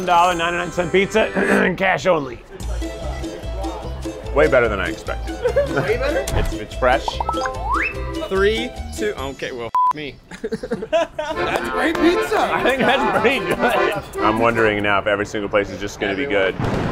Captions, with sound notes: $1, 99 cent pizza and cash only. (playful music) Way better than I expected. It's fresh. - Three, two... Okay, well (beep) me. (accordion music) - That's great pizza. I think that's pretty good. I'm wondering now if every single place is just gonna be good.